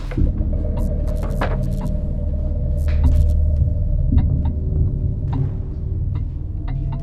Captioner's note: foreboding music; electricity buzzes